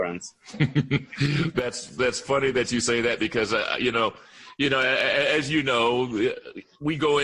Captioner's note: laughter